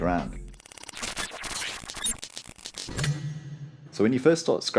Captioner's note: electronic sound effects